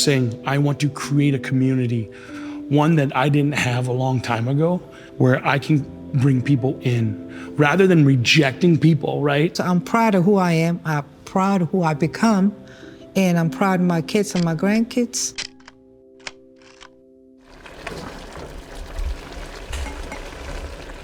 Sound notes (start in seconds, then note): 16.2 photos clicking; 17.4 liquid boiling